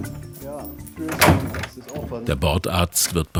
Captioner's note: knock